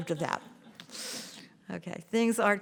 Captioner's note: laughter